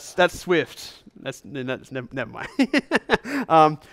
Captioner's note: laughs